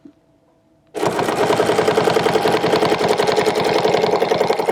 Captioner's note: machine whirring